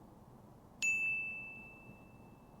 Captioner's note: ding